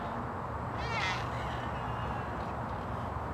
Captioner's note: cat meows